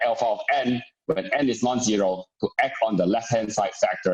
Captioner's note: murmur